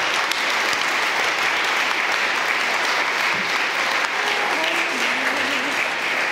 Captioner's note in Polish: oklaski